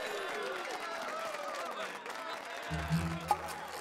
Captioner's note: cheers and applause